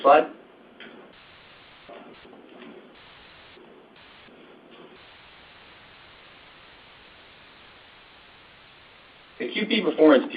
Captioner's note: silence